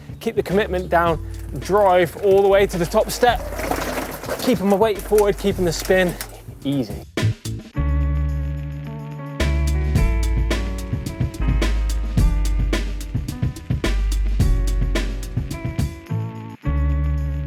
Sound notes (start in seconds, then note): 2.6 bike wheels whirring